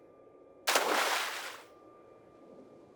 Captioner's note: splash